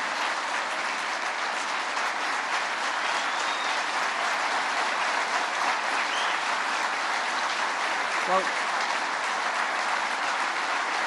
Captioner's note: applause